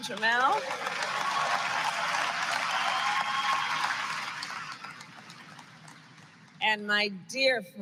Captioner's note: applause